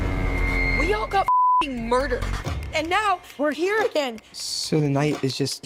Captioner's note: beep